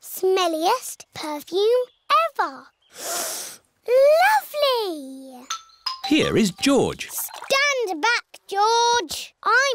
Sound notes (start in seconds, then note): 2.9 sniffs